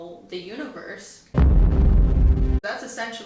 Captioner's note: explosion sound